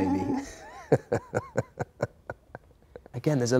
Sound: Phil chuckles

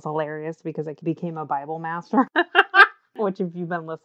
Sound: laughs

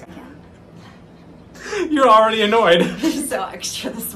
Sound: laughter

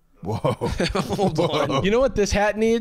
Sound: laughing

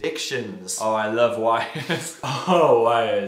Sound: laughs

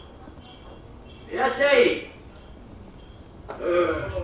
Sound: Japanese through speaker

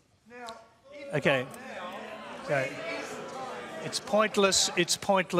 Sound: audience jeers

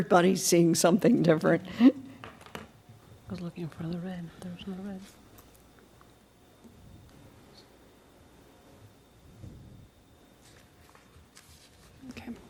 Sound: laughter

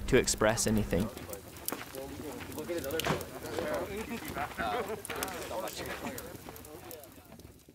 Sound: wood burning and crackling

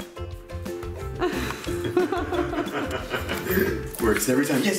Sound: laughing

